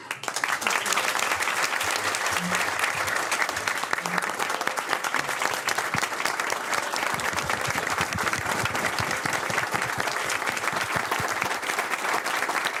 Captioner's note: applause